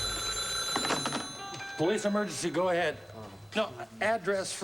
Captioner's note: phone rings